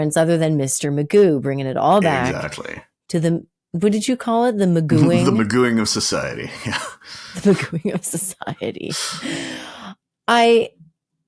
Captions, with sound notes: other than Mr. Magoo, bringing it all back to, what did you call it? The magooing? - The magooing of society. - The magooing of society (laughs).